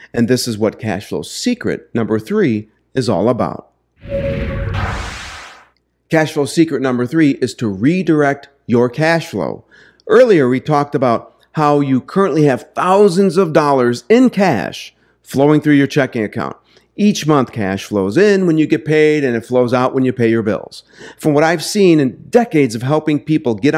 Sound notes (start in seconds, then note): 4.0 dynamic crashing